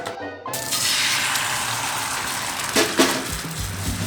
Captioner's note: sizzling